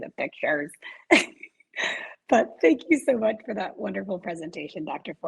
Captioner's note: laughs